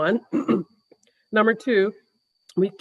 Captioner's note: deputy mayor clears throat